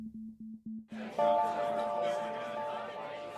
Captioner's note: people chattering